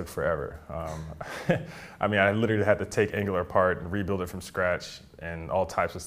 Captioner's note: laugh